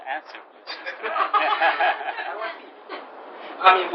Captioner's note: gülüşmeler